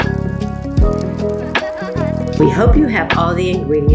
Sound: laughs

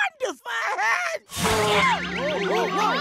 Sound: sneezing

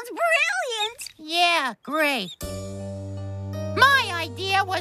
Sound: sarcastically

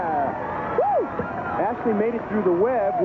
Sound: crowd cheering

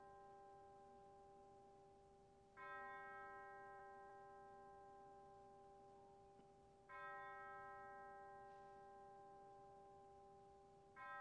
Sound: bells tolling

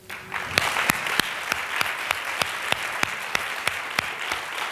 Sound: applause

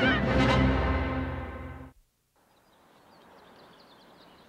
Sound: birds chirping

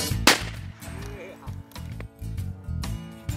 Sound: gun firing

